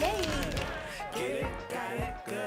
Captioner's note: clapping